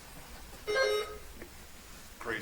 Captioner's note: buzzer chimes